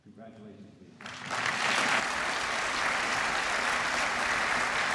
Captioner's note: applause